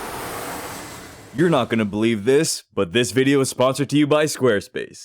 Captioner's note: airplane sound